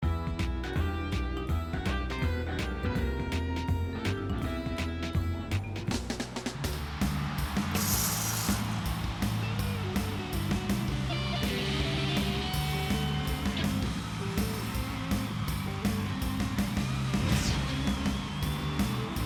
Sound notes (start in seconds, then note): 6.9 crowd cheering; 8.4 rock music